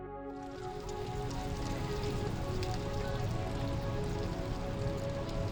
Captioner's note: electronic music plays; leaves rustling